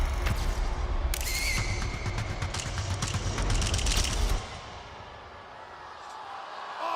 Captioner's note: dramatic suspenseful music; cameras clicking; crowd cheering